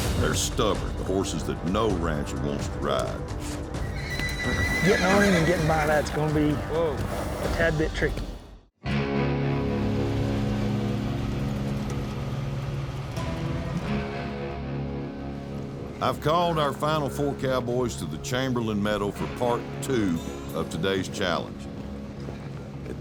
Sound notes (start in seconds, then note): 3.7 horse whinnies